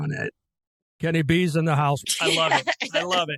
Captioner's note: laughing